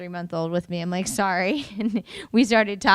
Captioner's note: chuckles